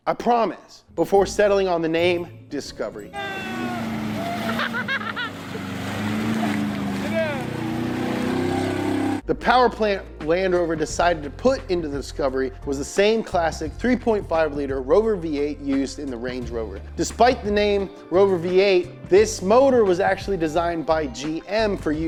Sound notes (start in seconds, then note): 3.1 people cheering; 3.2 engine rev noises